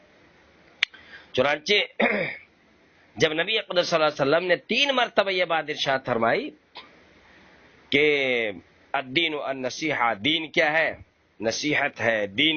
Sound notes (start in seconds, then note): 2.0 clears his throat